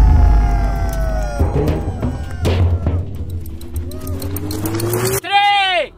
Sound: drums explode; drums falling

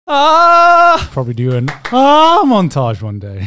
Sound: yelling

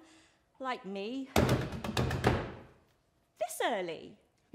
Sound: loud knocks on the door

